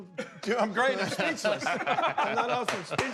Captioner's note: laughter